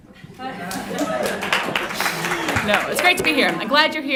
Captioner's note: applause